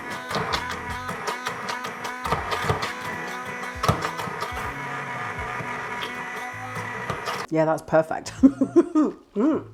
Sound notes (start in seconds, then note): 2.7 blender whirring